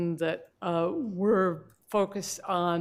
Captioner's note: none